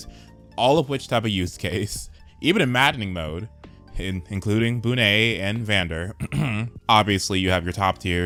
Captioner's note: ahem